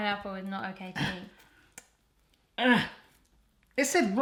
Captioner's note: grunting